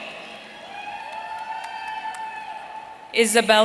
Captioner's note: audience cheering